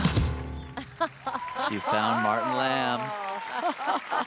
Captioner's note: laughs